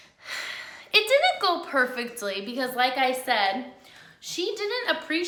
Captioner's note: sighs